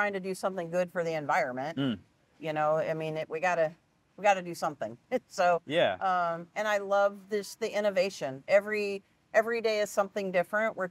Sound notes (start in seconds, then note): 5.4 giggling